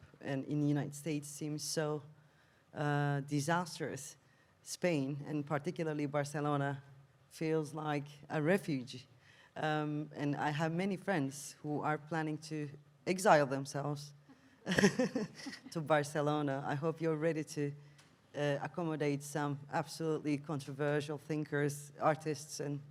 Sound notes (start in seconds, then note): 14.7 laughs